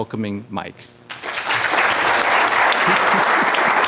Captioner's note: applause